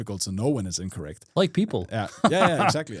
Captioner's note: friendly laughing